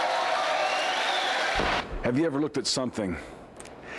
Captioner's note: crowd cheering